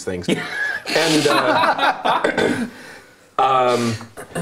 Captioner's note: laughter